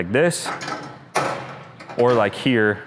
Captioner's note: grill clanking